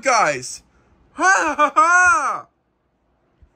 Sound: Zip laughs

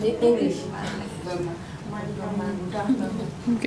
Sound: laughs

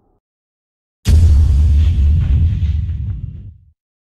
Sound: the same dramatic sound

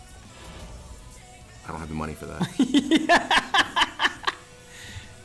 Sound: laugh

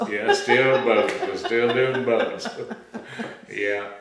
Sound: laughter

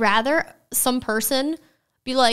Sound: none

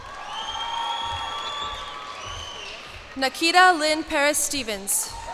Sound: cheers and applause

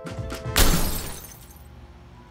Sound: shattering glass

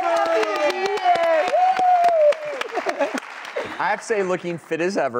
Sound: crowd cheering

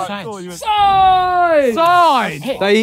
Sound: ohing

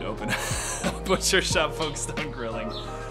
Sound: man laughing

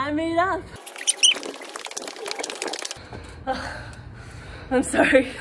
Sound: tape fast forwarding

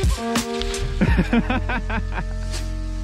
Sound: laughing

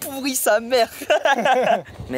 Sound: laugh

